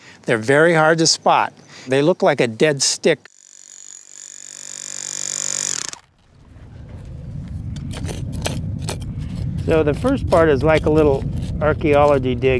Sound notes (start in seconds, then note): 5.3 power tool noise